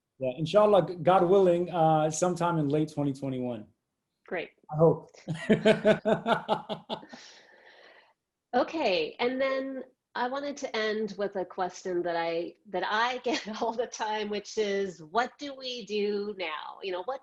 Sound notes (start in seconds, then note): 5.3 laughs